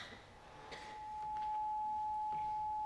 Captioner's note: microphone whistling